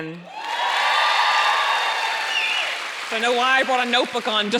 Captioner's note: audience cheering and applauding